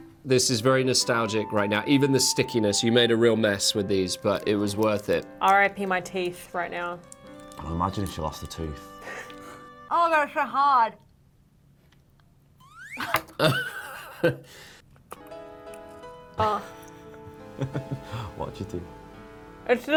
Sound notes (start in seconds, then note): 12.6 whistling; 12.9 laughing; 15.2 piano playing